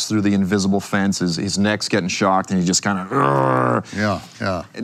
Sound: growls

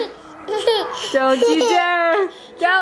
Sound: giggling

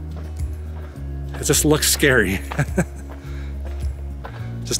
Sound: laughter

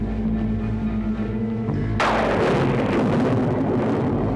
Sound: thunder

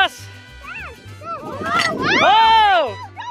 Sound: excited chatter

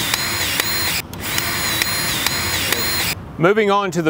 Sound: grease gun revving

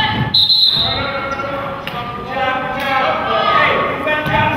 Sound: whistle blows

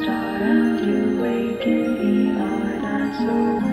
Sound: gradual fade in of regular heart monitor beeps; gradual fade in of regular heart monitor beeps

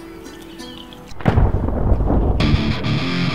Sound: thunder sound; hard rock music

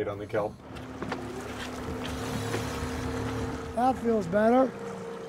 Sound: reel spinning

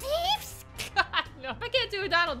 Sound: laughter

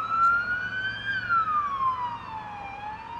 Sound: sirens wail

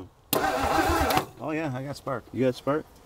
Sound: vehicle engine humming

